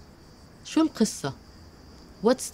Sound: speaking Arabic

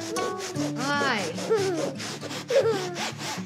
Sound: giggles

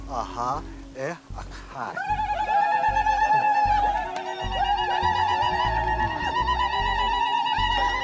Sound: speaking foreign language; screeching

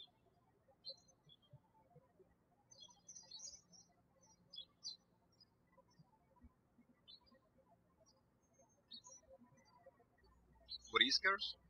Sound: birds chirping

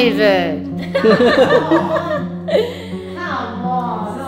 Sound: laughing

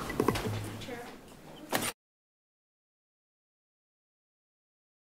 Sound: audio cuts out

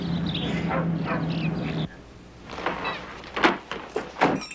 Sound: birds chirping; dog barking nearby

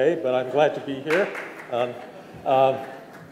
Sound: clapping

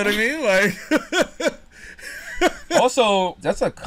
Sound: laughs

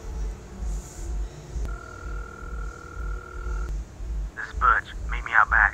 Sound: phone Ringing

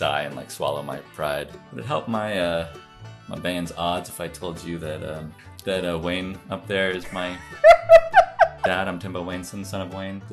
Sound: laughter

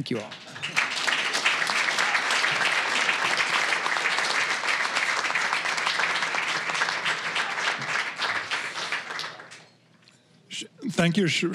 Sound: applause

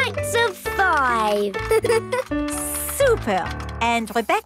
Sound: giggles

